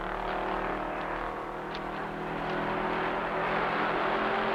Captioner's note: engines rumbling